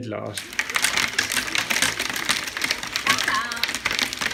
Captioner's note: loud noise of hail hitting the window